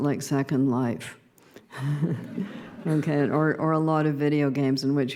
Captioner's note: laughter